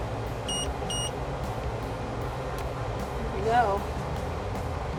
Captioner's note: machine beeps